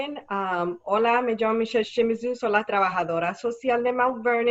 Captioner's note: speaking Spanish